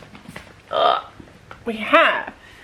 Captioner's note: groan